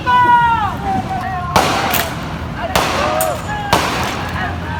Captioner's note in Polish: Strzały